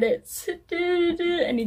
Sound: hums credits music?

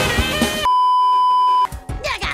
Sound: beeeeeep

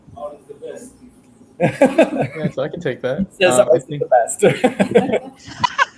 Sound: chuckles; faintly speaking; chuckles

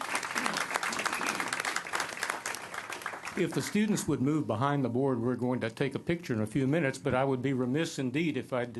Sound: applause

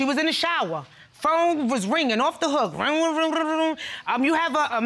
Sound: mimics phone ringing

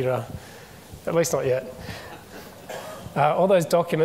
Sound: audience members chuckle

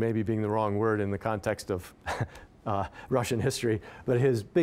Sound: chuckling

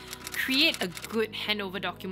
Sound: typewriter clicks

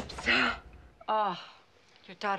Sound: gasping

